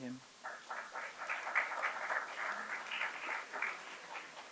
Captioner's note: applause